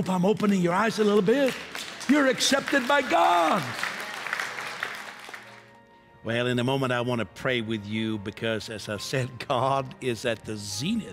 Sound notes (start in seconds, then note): 3.6 applause